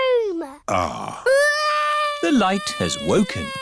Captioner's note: crying